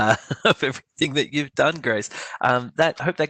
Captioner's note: chuckles